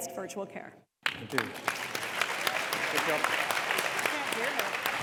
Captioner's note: audience applauds